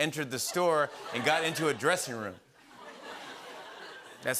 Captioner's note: laughter